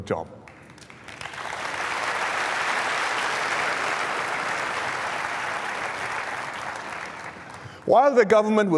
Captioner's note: applause